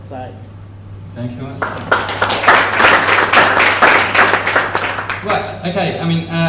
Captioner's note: applause